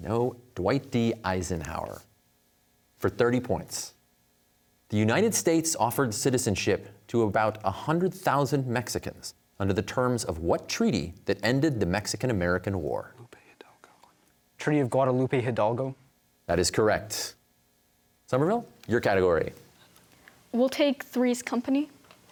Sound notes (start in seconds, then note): 13.3 whispers